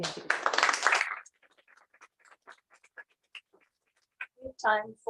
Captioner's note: applause